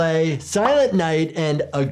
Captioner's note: image pops